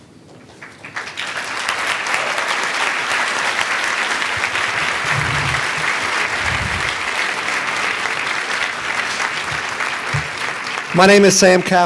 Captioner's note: applause